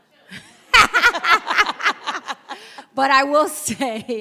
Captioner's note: audience laugh